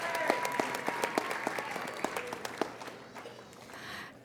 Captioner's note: applauding